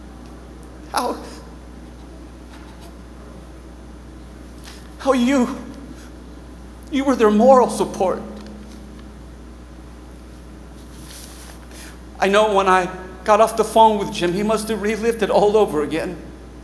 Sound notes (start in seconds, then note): none